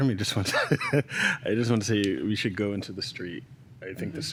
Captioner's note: chuckles